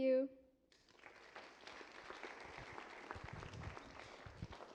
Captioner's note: applause